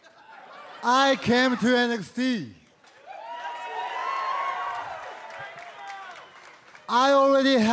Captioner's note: crowd cheering